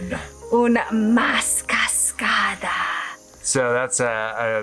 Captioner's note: speaking foreign language